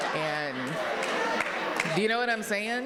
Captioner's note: audience laughing